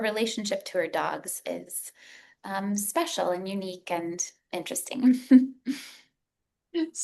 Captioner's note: giggles